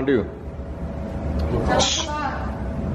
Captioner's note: shushes